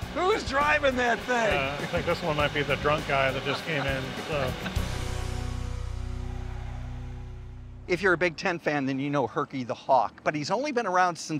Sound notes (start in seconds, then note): 3.3 laughing